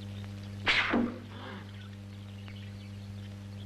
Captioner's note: men gasping